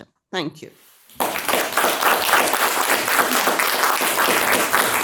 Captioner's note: audience clapping